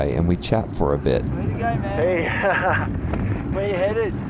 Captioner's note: ha,ha